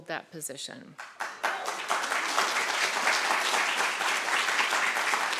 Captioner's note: audience applauding